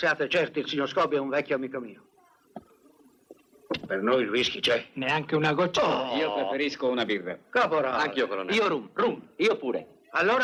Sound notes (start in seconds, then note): 6.3 scoffs